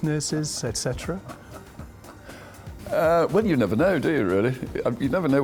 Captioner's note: laughs